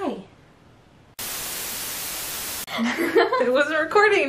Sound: static

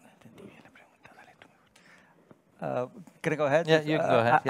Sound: whispering in foreign language

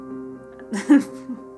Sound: laughs

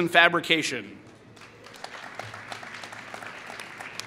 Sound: applause

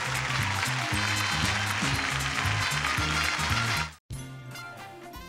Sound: audience applauding

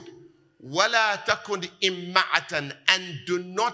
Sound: Arabic

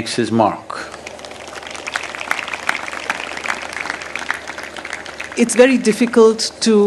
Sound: applause

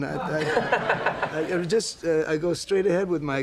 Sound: laughter

